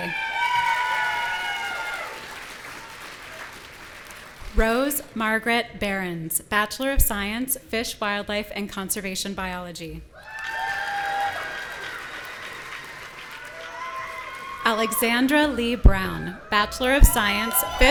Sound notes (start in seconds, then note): 0.0 audience cheering; 10.1 audience cheering